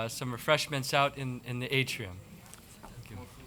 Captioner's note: chattering and laughing